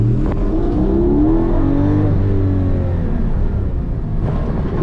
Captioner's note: engine goes brr